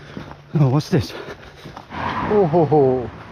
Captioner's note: panting